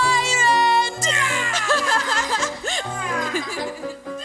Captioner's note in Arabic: اصوت وضحك الجني